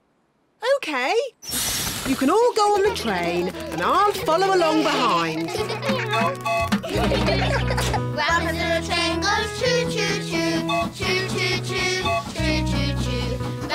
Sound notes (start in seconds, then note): 5.9 tooting; 6.7 all giggling